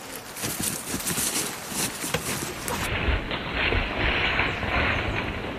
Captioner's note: running sounds